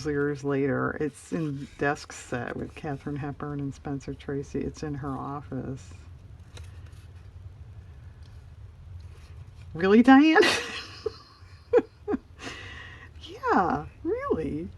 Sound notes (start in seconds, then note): 12.1 laughs